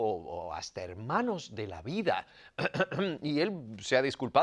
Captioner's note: cough